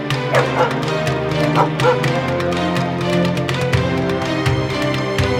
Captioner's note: dramatic music continues; dog barking; dramatic music continues